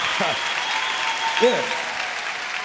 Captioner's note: chuckles